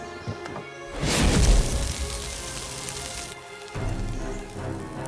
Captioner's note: fire sizzles; tense music